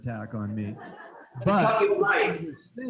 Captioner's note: students laughing